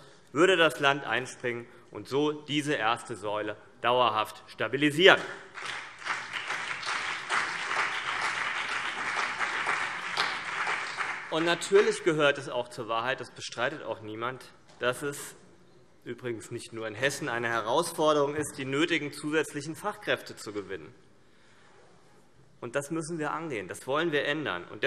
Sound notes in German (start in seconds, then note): 5.5 Beifall CDU und BÜNDNIS 90/DIE GRÜNEN